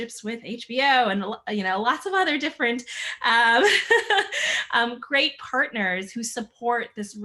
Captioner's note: laughing